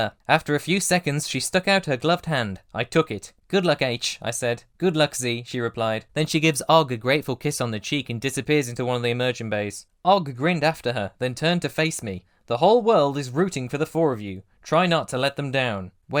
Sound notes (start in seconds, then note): none